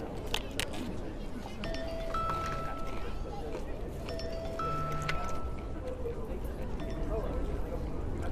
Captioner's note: phone ringing